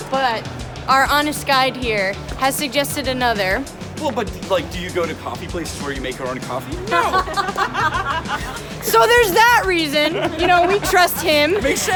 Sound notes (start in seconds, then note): 6.8 laughing